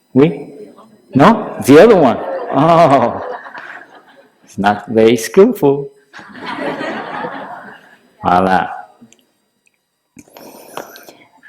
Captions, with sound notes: Yes? No? The other one! It's not very skillful. (Laughter) Voilà!